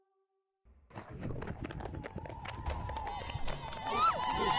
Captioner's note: indistinct Chatter